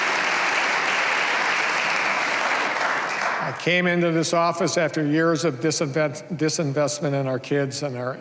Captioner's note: applause